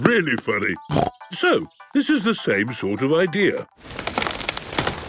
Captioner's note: snorting